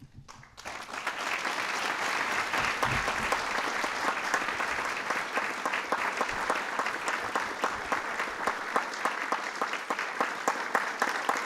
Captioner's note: applause